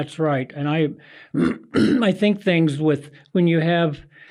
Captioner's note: clears throat